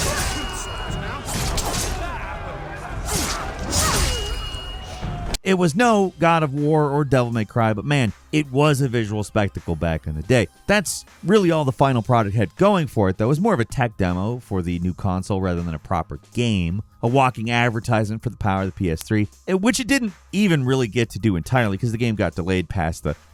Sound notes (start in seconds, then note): 0.0 soldiers chattering; 3.0 sword swishing; 3.3 blows thudding